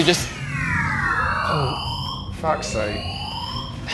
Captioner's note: alarm blares